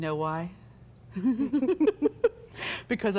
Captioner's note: both chuckle